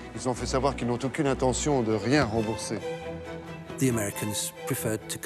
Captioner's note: dramatic music; man speaking in French